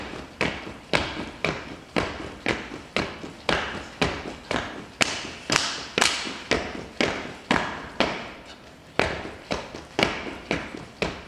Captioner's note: rhythmic clapping and stomping